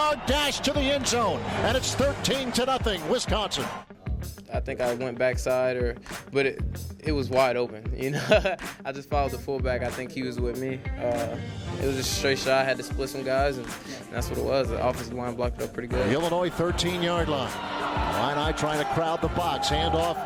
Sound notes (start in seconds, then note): 8.1 laughing